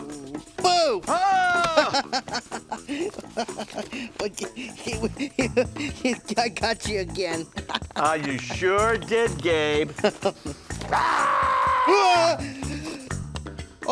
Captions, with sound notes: - Boo! (man screaming) (Gabe laughing) - I got you again. - Ah, you sure did, Gabe. (man growling) (Gabe screaming)